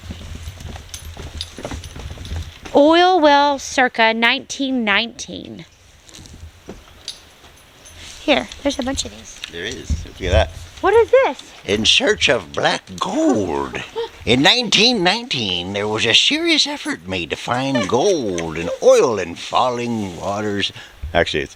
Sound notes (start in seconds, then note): 10.9 old miners voice; 20.0 normal voice